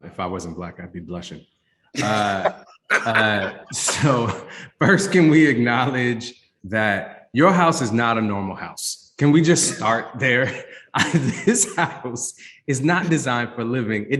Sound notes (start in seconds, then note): 2.9 bursts of laughter; 9.5 chuckles